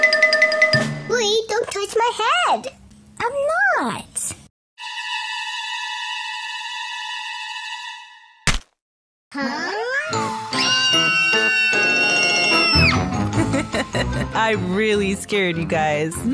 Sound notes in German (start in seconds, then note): 10.5 Bluey und Bingo schreien